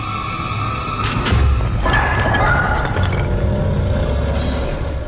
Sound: bricks rambling

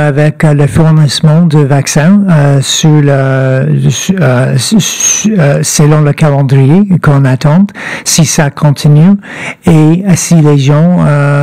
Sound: speaking French

